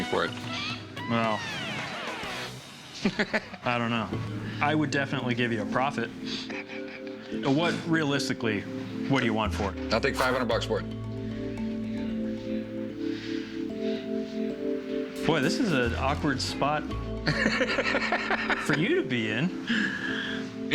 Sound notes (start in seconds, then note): 6.4 chuckles; 17.2 laughs